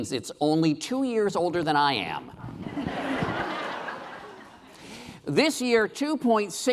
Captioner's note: laughing